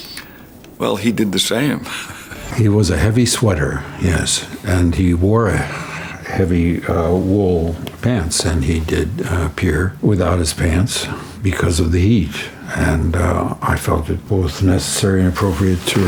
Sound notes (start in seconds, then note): 1.6 chuckling